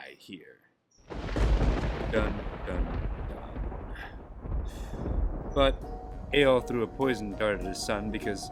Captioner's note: thunder clap